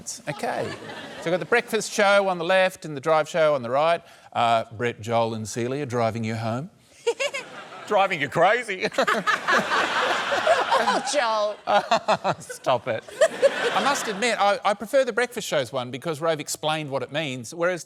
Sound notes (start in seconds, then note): 7.0 celia giggles; 8.8 laughter; 12.1 laughs